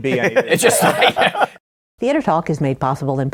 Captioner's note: laughter